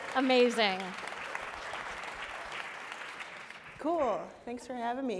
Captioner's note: applause